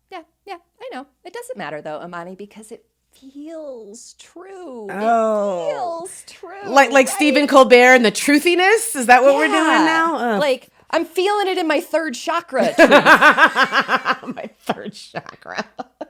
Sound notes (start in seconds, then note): 4.9 groans; 12.7 both laugh